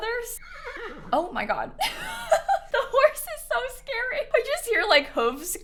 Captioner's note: horse neighs